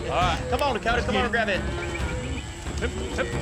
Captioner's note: whistling